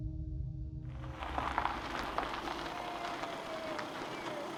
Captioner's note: car tyres drumming